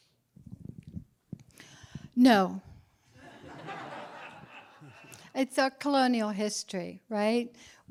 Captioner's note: laughter